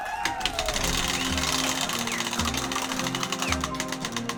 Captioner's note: cheering